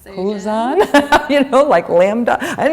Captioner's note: laughter